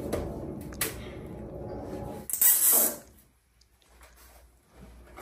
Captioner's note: repair Noise